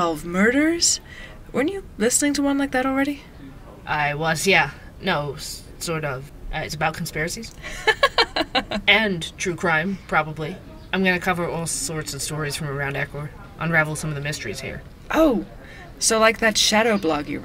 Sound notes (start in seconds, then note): 7.6 laughs